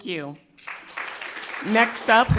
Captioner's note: crowd clapping